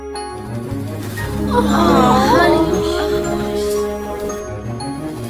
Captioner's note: crowd awes